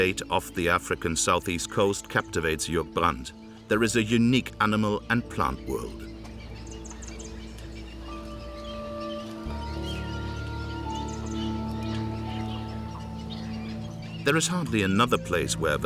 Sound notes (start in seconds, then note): 6.1 birds chirping; 6.1 gentle orchestral music